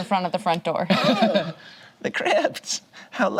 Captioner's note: group laughs